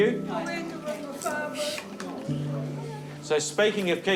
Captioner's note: all murmur